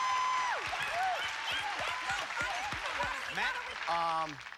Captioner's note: cheers and applause